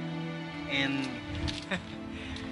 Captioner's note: chuckles